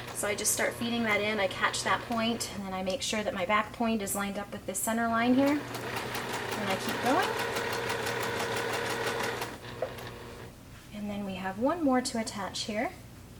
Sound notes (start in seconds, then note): 8.9 sewing machine churning